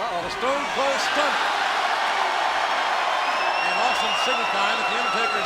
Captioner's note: audience cheering